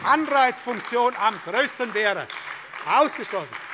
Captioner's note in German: Beifall bei der SPD